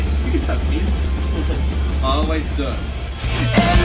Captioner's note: chuckles